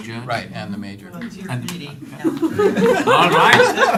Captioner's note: laugther